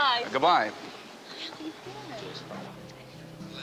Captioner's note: couple chattering faintly; gentle music